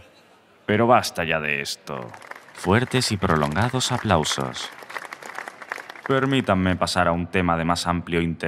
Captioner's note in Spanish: Fuertes y prolongados aplausos